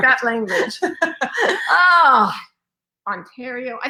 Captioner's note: laughing